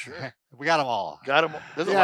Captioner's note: laughs